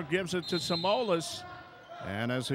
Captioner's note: whistle blows